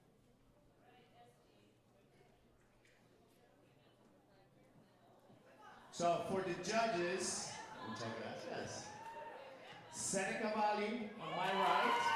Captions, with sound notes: So for the judges-- - Wepa! [speaker speaks Spanish] - Seneca Valley on my right.